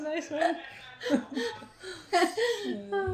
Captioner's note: both laugh